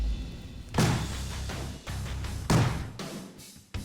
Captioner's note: pounding